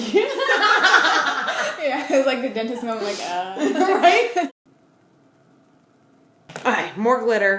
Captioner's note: laughter